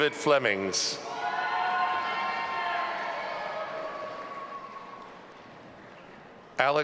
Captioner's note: audience applauding and cheering